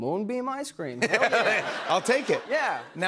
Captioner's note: laughter